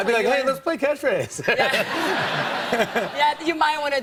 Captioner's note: laughter